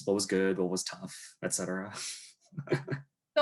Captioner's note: laughs